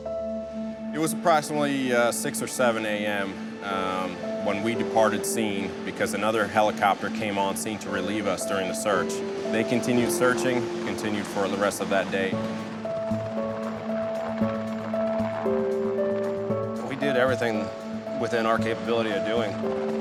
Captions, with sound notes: - It was approximately 6 or 7 a.m. when we departed scene because another helicopter came on scene to relieve us during the search. They continued searching, continued for the rest of that day. (engine whirring) (upbeat music) - We did everything within our capability of doing.